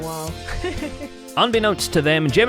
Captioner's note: laughs